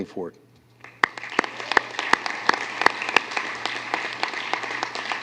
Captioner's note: applause